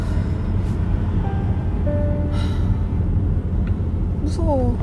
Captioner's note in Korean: 한숨소리